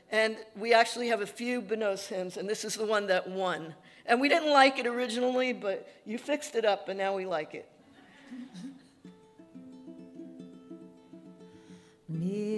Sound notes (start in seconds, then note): 8.0 audience laughing; 12.3 singing in Yiddish